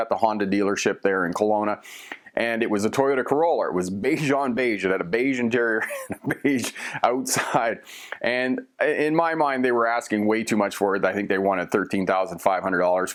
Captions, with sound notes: the Honda dealership there in Kelowna, BC, Canada. And it was a Toyota Corolla. It was beige- on-beige. It had a beige interior and beige outside [LAUGHING]. And in my mind, they were asking way too much for it. I think they wanted thirteen thousand five hundred dollars